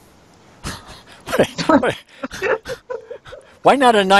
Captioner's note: both laughing